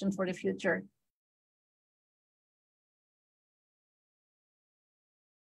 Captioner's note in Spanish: silencio